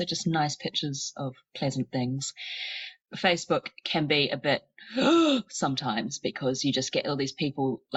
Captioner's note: gasps